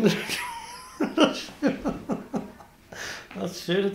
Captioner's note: laughs